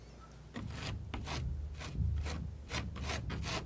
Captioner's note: scratching